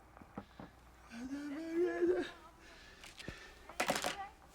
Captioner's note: babbling